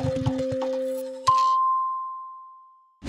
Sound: dinging

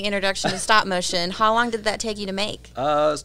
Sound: laughs

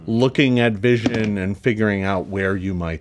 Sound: dice clatters

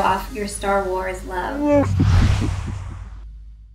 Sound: Chewbacca sounds

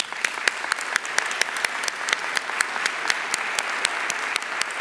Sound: audience applauding

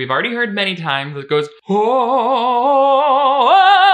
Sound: vocalizes

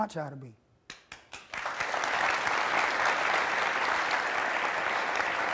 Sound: audience applauding

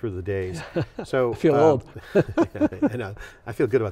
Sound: laughs

